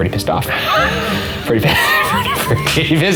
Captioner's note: laughing